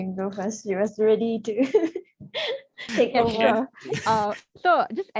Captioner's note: laughs